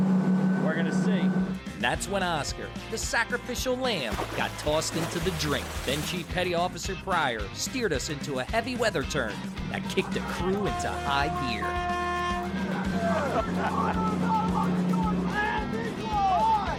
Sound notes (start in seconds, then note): 9.8 boat horn playing; 13.0 laughs